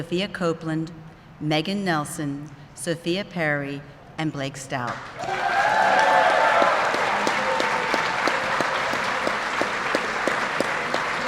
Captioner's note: applause